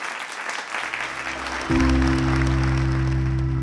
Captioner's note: audience applauding; light mellow music